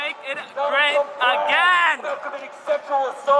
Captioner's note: man on megaphone